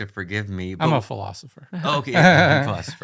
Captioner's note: laughs